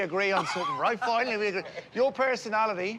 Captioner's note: laughs